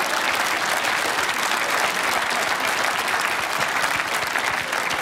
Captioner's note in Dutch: applaus